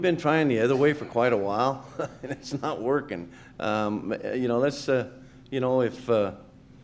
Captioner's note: laughs